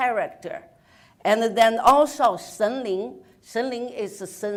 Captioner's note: speaks in foreign language